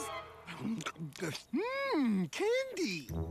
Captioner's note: gulps